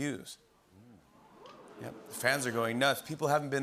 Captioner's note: murmuring